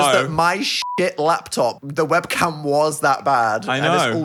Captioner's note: beep